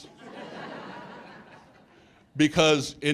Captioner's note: audience laughs